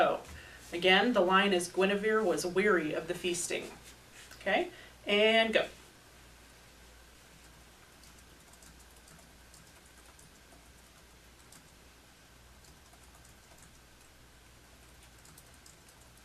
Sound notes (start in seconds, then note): 7.7 typing